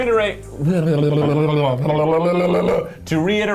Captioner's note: tongue sputtering